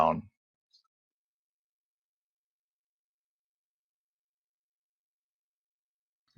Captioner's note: silence